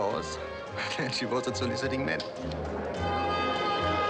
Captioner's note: chuckles